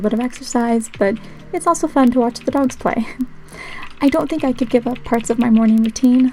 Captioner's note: laugh